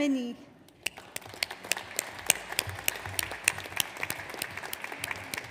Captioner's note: audience applauds